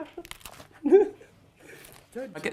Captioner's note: laughs